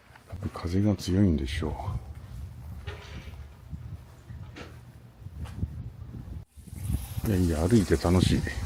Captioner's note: blowing from the sea